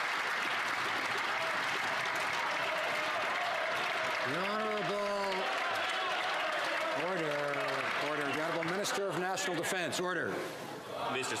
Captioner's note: some Applause